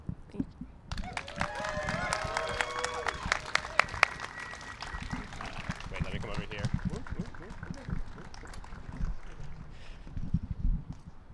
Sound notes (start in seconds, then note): 0.9 applause and cheering; 5.8 crowd talking and chatter